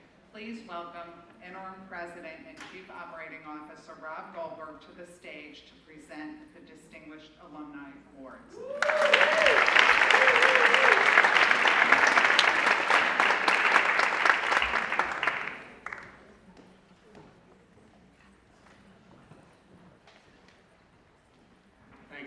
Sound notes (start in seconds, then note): 8.6 applause